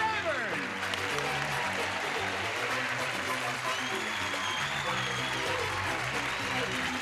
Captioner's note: clapping and cheering